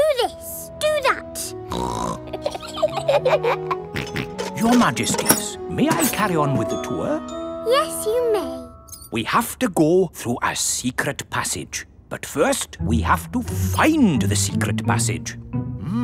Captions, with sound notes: Do this! Do that! (SNORTS) (BOTH GIGGLE) (SNORTS) Your Majesties, may I carry on with the tour? Yes, you may. We have to go through a secret passage. But first, we have to find the secret passage!